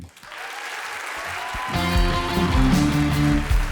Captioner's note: audience applauding; upbeat music